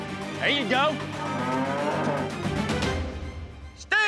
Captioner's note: mooing